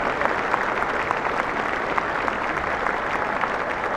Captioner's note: cheers and applause